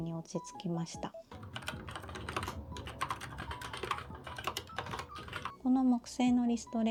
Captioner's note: key tapping sound